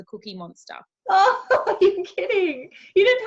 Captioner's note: laughing